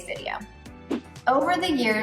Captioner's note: air whooshing